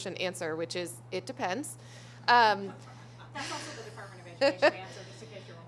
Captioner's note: laughter